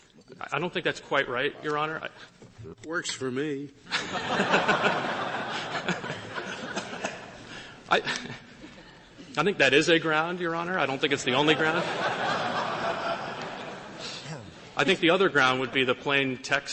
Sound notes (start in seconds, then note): 3.9 laughter